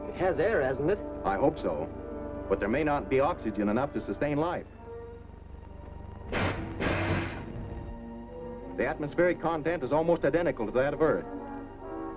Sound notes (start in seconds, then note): 6.3 air blowing out of valve